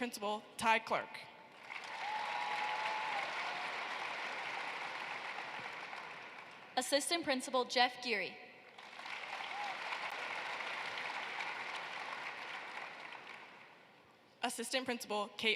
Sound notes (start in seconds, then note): 8.6 applause